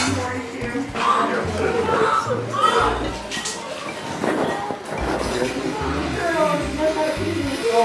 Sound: baby crying

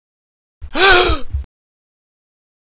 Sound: gasp!

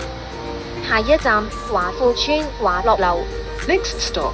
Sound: Cantonese

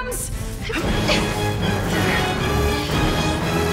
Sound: grunting

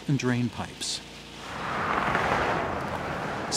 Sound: traffic sounds

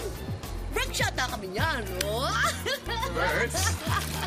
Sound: laughs

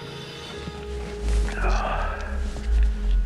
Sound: sighs

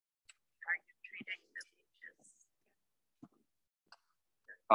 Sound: attendee talking

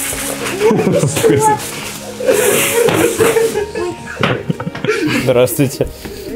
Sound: laughing

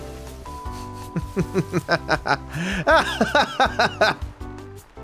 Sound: laughs

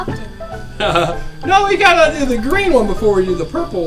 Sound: laughs

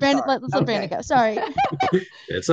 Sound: brief laughter

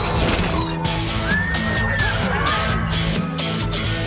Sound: screaming

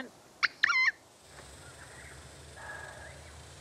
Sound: horn honks

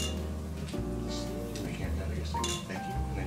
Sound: glasses clinking

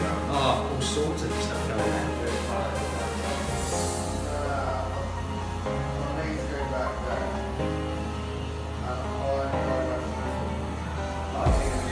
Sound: barber shop chatter

